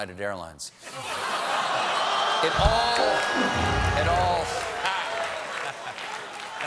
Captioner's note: applause